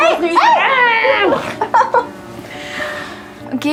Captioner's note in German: Lachen